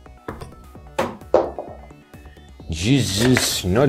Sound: thunking

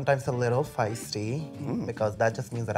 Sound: grunts

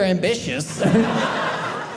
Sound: audience laughing

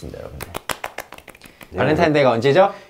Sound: applause

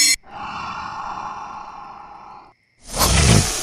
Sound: raspy growling

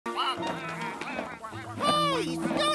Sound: ducks quacking

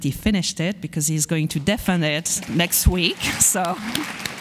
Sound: audience applauds

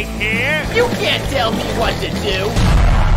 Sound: skateboard rumbling

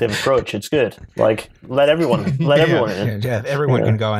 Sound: laughs; chuckles

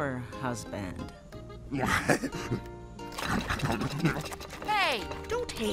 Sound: King chuckling

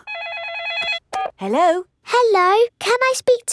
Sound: phone rings

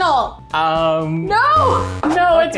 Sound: buzzer sounds

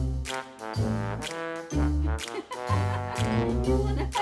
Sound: laugh

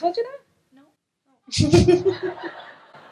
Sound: laughs

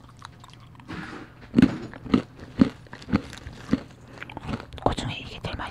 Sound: crunch crunch

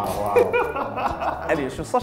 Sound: laughing

